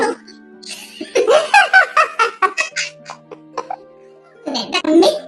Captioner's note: laughs